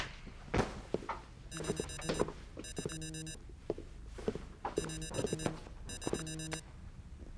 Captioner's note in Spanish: timbre de teléfono